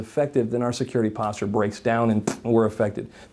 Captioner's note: scoffs